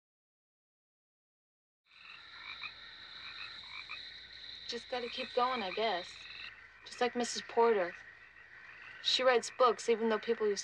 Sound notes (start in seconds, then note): 2.5 crickets chirping